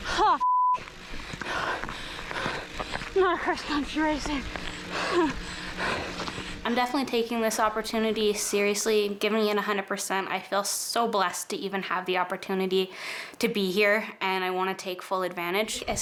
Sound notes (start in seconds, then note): 0.3 beep; 6.1 pants